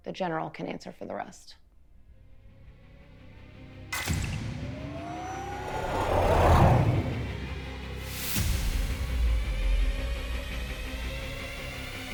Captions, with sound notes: The General can answer for the rest. (dramatic music) (ship whooshing)